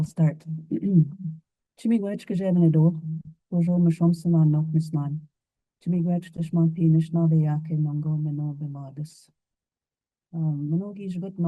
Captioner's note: speaks in Cree